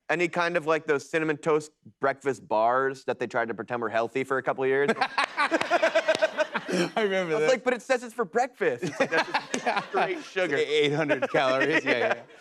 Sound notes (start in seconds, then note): 4.9 laughs